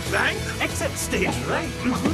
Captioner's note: grumbling